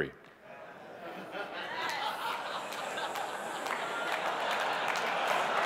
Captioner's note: audience laughing; audience applauding